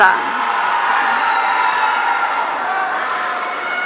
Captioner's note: audience cheering